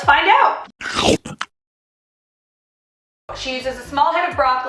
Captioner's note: chomping